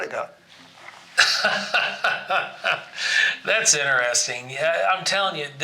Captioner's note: laughs